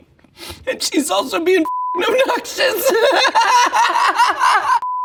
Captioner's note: laughs